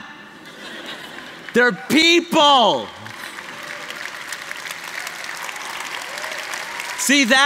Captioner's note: applause